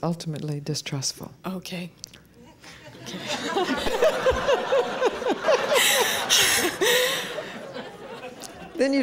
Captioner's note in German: Lachen